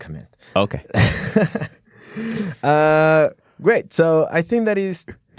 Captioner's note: laughs